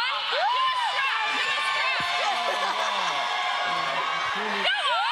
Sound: audience cheers

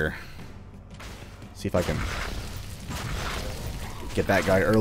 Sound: gunfight commences

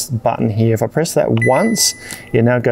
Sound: control panel dings

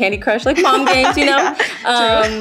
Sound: laughing

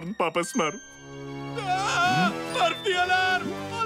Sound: screaming

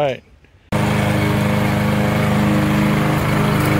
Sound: lawnmower running

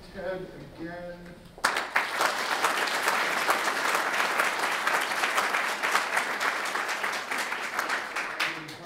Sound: audience Claps

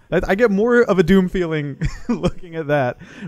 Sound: laughs

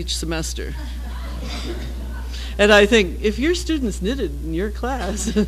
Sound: laugh

